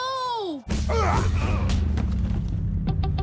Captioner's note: men grunting